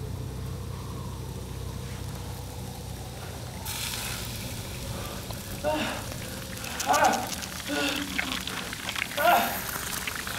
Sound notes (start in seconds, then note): 2.7 sizzling; 5.1 groaning